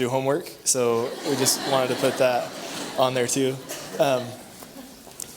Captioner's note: laughther